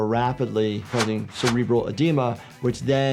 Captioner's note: cards flipping